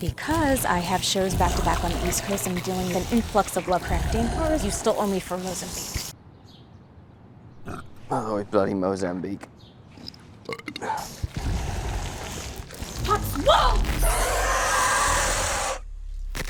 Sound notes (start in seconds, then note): 7.6 burps; 10.7 belch; 14.2 monster growls